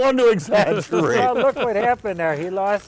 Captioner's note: laughter